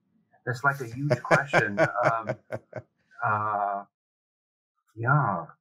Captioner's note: loudly chuckling